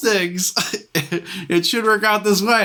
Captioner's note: laughs